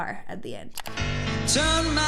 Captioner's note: mouse clicks